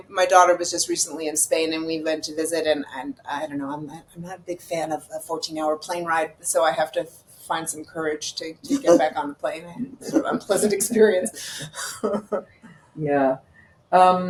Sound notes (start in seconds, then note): 11.7 laughing